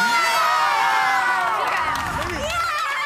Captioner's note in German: Jubel